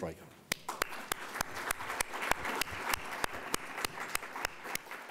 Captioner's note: audience applauding